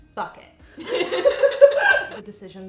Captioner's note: laughing